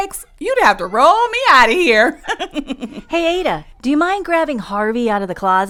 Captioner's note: laughs